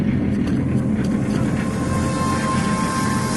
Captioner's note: съскане